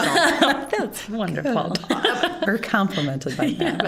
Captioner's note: all laughing